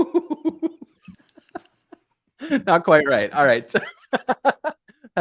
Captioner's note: laughter